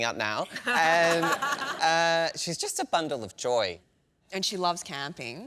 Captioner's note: laughs